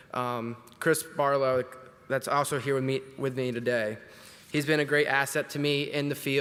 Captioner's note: none